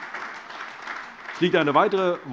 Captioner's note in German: Beifall AfD, vereinzelt CDU und Freie Demokraten